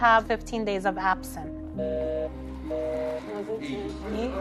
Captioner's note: busy signal